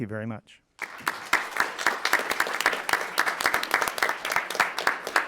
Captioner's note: attendees applauding